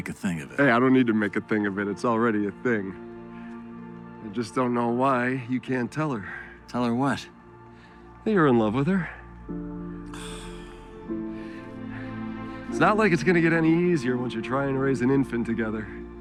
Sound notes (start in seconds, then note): 9.7 scoffs